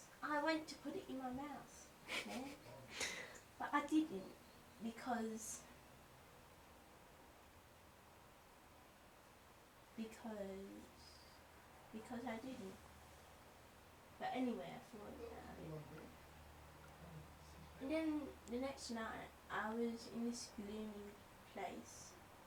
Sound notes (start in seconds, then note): 2.0 stifled giggling